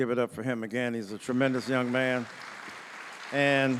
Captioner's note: audience applauding